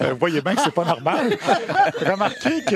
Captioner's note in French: rires